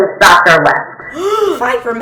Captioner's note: gasp